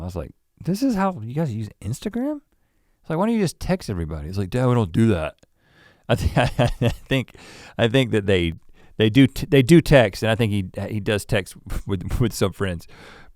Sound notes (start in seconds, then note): 6.1 chuckles